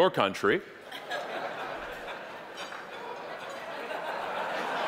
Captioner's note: audience laughing